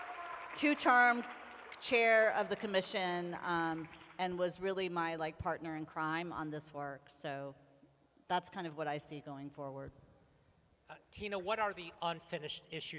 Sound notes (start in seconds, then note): 2.8 applause